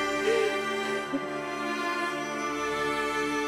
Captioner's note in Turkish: Ağlıyor